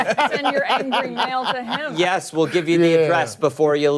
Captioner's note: laughter